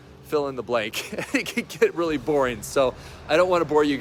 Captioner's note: chuckles